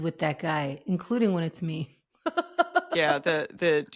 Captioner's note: laughs